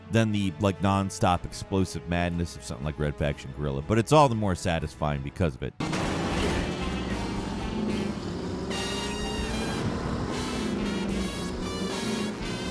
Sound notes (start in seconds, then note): 5.8 engine rumbling; 10.0 upbeat music